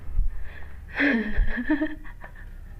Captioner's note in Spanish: risa